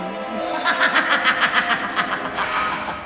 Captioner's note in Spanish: Risa malvada